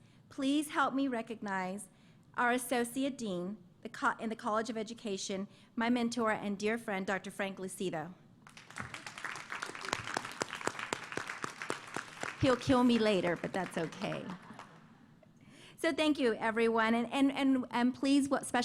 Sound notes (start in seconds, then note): 8.4 applause; 14.0 laughter